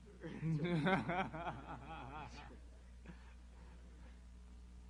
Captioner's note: laughter